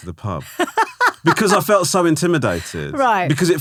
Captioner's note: laughing